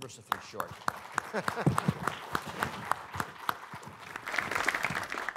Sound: applause

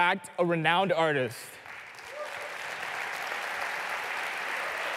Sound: applause

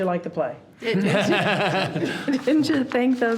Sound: people laughing

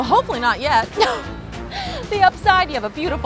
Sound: laughs

